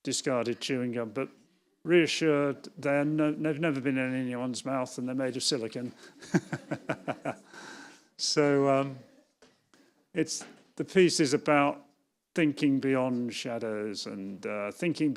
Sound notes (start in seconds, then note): 5.9 laughs